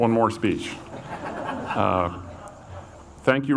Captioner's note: audience laughs